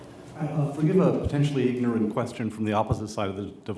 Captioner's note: voiceover